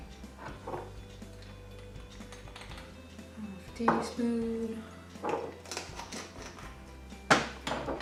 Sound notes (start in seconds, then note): 2.1 spoon clatters; 5.2 lid screwing back on